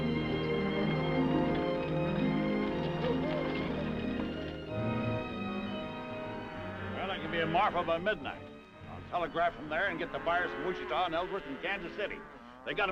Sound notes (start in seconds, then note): 0.6 gentle music; 2.1 horse hooves clopping; 4.3 gentle music; 6.1 cows mooing